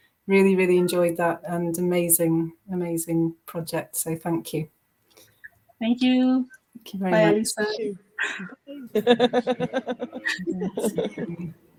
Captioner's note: laughs